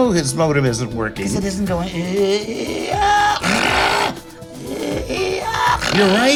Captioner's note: imitates machine whir